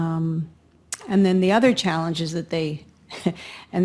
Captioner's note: laughs